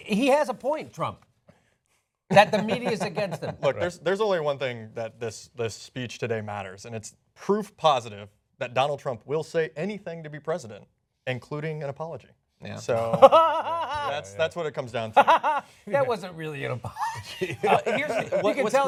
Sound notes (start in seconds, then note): 13.6 laughter